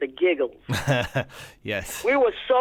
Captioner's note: laughter